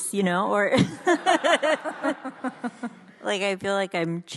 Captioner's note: audience laughs